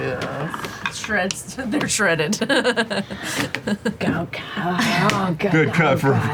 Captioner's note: laughs